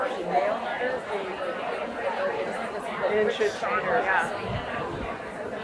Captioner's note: people chattering continues